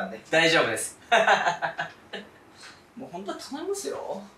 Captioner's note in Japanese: 笑い